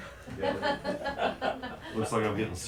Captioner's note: laughter